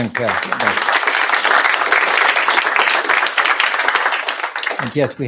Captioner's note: applause